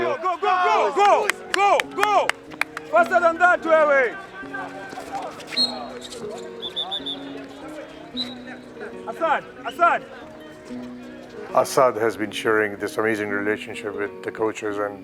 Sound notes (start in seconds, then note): 5.4 whistle